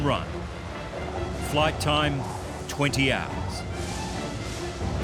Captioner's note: wind howling